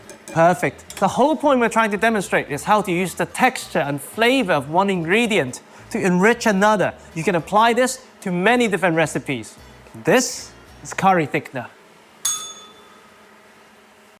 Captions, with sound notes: Perfect. The whole point we're trying to demonstrate is how to use the texture and flavour of one ingredient to enrich another. You can apply this to many different recipes. This is curry thickener. [bell rings]